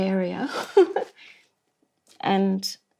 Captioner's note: laugh